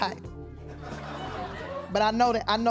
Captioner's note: laughing